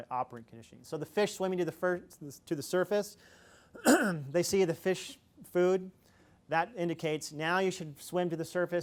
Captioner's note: coughs